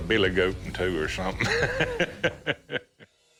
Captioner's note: laughs